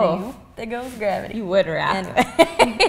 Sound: laughs

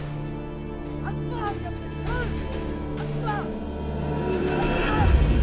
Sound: speaking foreign language

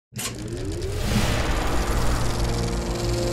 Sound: film reel spooling up

